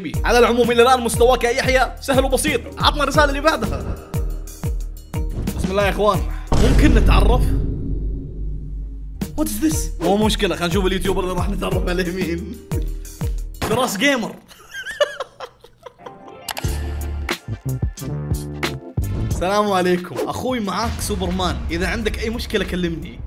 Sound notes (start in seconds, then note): 14.4 laughs